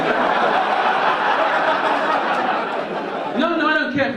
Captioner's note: audience laugh